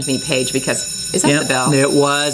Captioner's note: bell rings